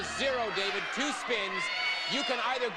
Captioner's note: audience cheering